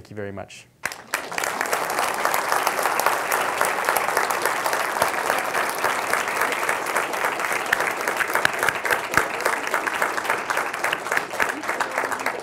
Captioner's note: applause